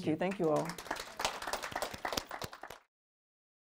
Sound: applause

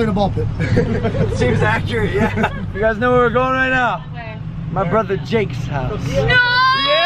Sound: laughing

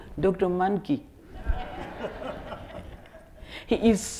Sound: audience laughing

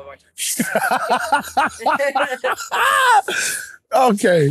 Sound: boisterous laughter

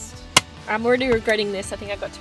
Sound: seatbelt clicks in

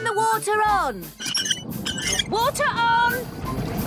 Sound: wheel squeaking

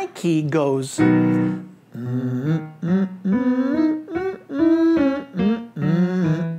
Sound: soft music; humming

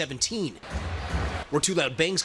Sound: banging

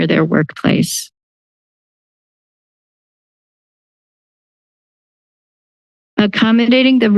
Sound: silence

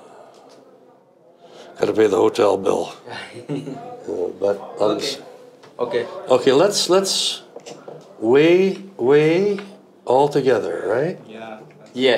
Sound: chuckles

